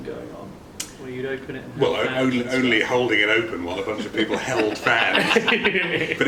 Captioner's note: laughs